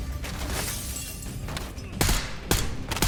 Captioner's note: gun firing; glass breaking; firing continues